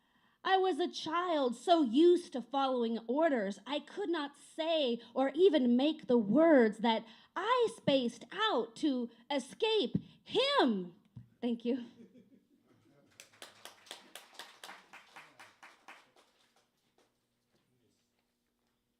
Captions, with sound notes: I was a child so used to following orders. I could not say or even make the words that I spaced out to escape him!" Thank you. [CLAPPING]